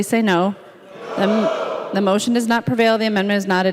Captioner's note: chorus of ayes